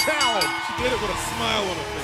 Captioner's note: bell ringing